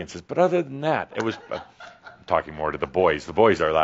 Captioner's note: a few giggles